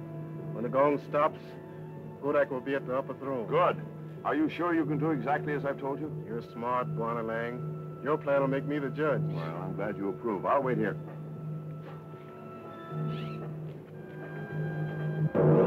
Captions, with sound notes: When the gong stops, Godac will be at the upper throne. - Good. Are you sure you can do exactly as I've told you? - You're smart, Lang. Your plan will make me the judge. - Well, I'm glad you approve. I'll wait here. (loud gong)